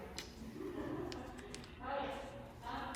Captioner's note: laughs